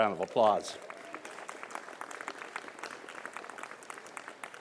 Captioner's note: applause